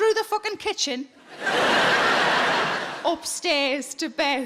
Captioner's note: audience laughing